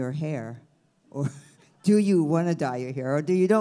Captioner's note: laughs